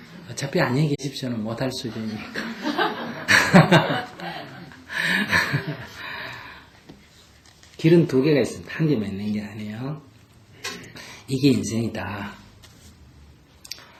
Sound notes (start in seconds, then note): 4.0 audience Laughter; 4.0 laughter